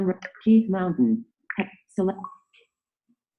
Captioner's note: clicking through menu items